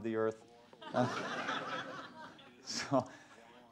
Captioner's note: laughter